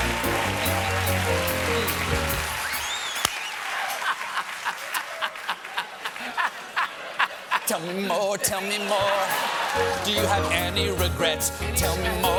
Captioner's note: applause